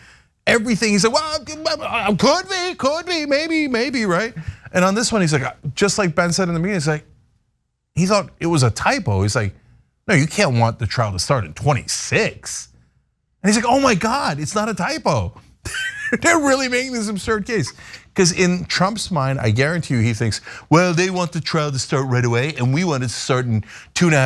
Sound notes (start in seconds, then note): 15.6 laugh